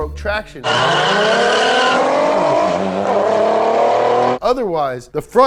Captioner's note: engine roaring